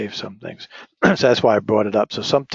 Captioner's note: cough